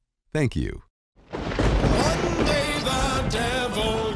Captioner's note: thunder crashing